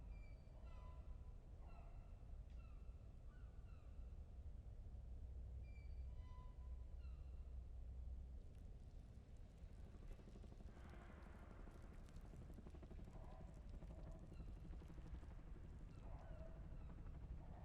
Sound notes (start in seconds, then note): none